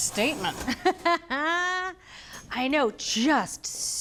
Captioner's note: laughing